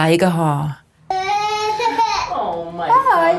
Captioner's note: cries